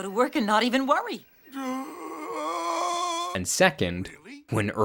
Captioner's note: Earl groaning